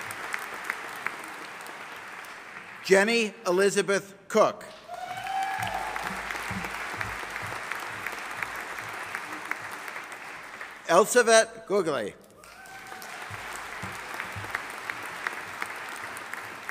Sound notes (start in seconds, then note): 4.8 audience applauding; 12.4 audience applauding